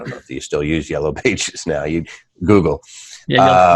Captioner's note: laughing